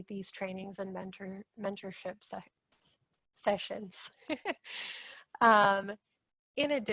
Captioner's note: laughs